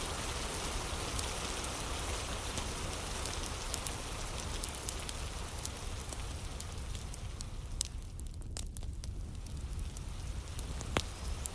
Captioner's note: fire crackling